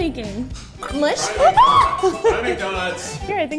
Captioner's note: screams